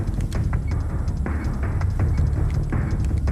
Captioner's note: beeping